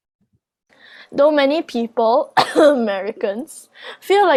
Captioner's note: cough americans cough